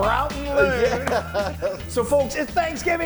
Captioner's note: laughs